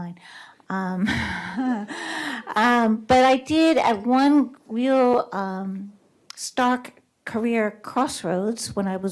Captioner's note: laughs